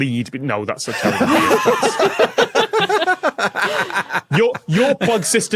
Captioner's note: guests laugh heartily